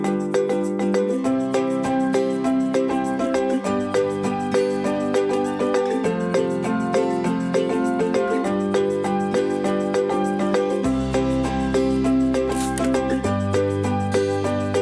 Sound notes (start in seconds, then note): 0.0 whimsical children's music; 12.5 water spraying; 13.8 whimsical children's music